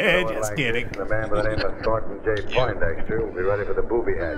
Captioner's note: chuckling